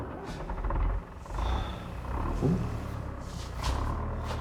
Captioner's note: exhales deeply; engine turning over